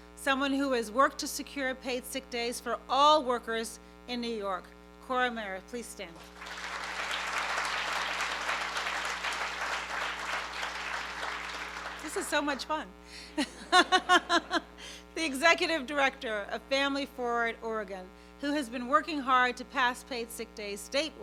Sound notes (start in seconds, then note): 6.1 applause; 13.3 laughs